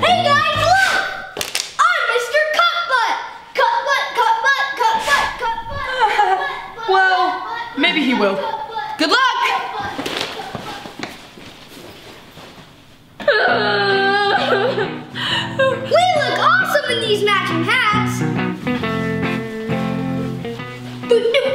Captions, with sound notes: - Hey guys, look. I'm Mr. Cup Butt. Cup Butt, cup butt, cup butt, cup butt, cup butt, cup butt. - Well, maybe he will. Good luck. - (cries loudly) - We look awesome in these matching hats. (piano music)